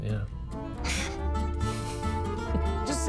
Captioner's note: chuckles